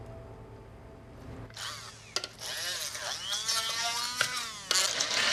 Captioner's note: whirring